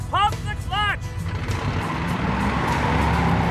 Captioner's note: revving of engine